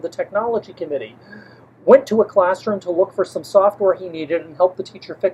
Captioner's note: deep breath